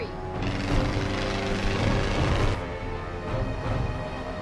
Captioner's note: propellers whirring